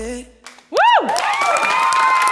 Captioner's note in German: Jubel und Applaus